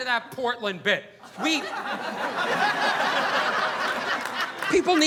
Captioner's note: audience laughing